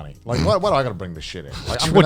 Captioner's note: snorts